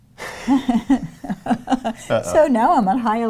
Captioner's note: laughing